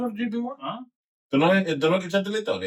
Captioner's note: speaking In Foreign Language